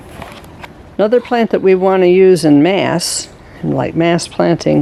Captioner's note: walking sounds